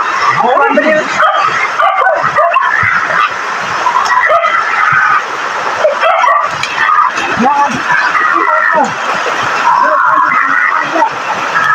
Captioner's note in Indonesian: suara anjing